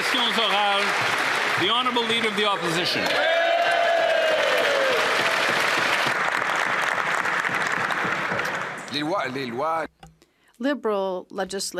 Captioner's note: applause